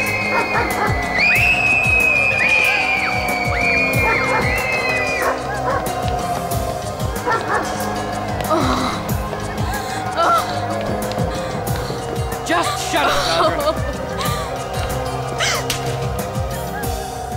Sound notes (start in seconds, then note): 0.0 Bob barks; 0.0 screaming; 0.0 wolf howls continue; 6.9 wolf howls continue; 7.2 Bob barks; 8.2 wolf howls continue; 8.5 Zandra sobs; 12.9 Zandra sobs; 14.0 wolf howls continue; 15.3 Zandra gasps; 15.3 wolf howls continue; 15.6 Amber slaps Zandra